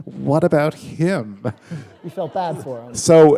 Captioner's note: laughter